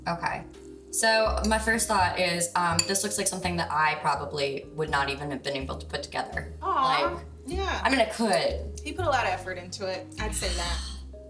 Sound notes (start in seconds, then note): none